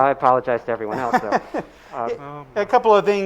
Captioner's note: laughing